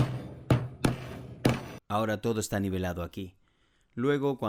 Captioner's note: Se oye el martillo